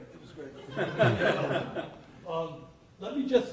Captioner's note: laughter